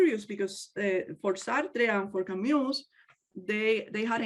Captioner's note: speaks native language